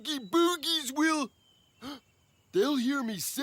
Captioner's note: gasp